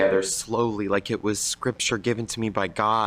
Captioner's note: none